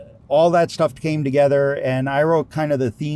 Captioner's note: none